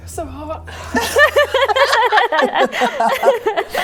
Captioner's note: tension-breaking laughter